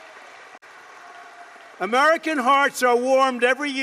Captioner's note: applause